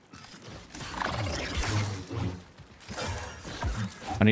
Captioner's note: gunshots